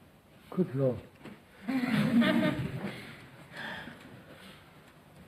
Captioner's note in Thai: หัวเราะ